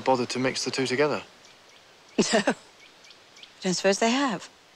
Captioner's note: laughs